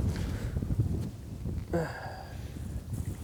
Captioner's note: sighs